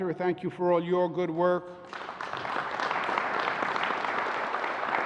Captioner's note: applause